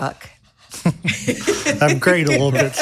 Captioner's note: people laughing